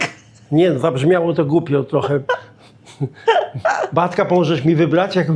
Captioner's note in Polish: śmiech